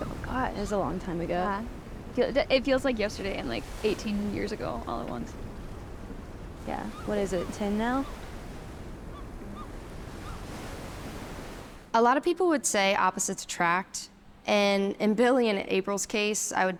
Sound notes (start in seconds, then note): 10.6 waves lightly crashing